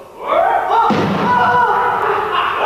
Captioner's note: gunshot!